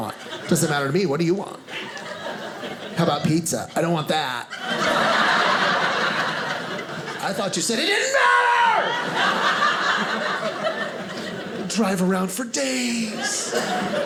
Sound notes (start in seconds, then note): 4.4 audience laughing